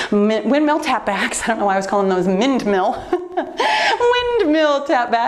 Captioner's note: laughs